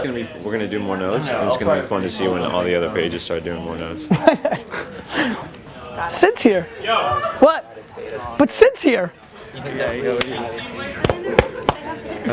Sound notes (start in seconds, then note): 4.0 Gary laughs; 6.8 man and woman exclaim